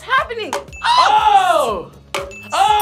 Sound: screams

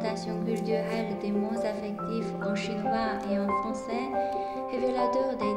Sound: French

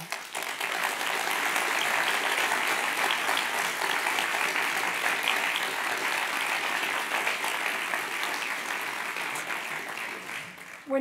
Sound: applause

